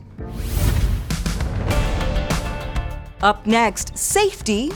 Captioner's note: energetic music; air swooshes